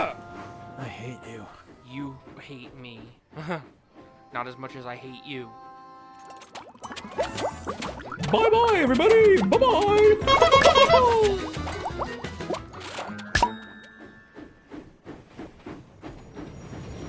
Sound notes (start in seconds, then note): 10.6 honks horn and chuckles; 12.4 pop!